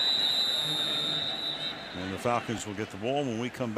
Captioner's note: whistle